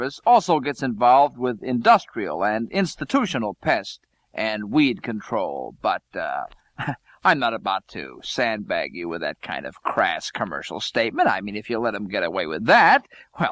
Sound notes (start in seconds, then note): 6.5 chuckle